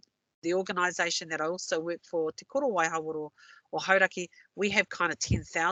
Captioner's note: non-english